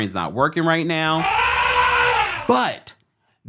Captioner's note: elephant trumpeting